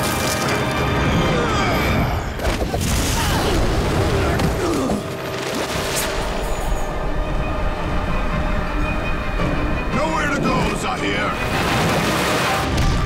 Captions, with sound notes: [grunting] [grunting] Nowhere to go, Zaheer!